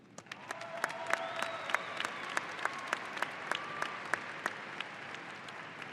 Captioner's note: audience applauding and cheering